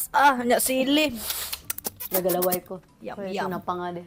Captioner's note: smacks lips